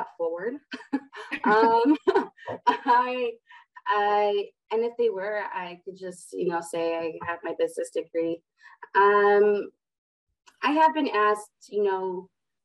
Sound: laughter

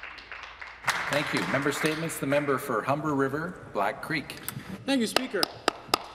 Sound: some Applause

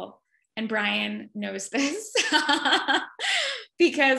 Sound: laughs

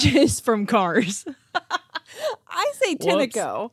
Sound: laughing

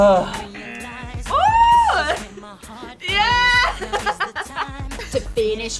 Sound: buzzer; laughs

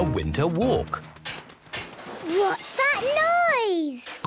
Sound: distant banging, crashes

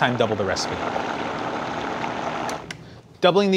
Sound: blender whirring

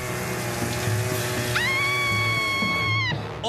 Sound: screaming

